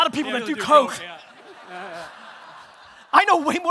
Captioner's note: audience laughter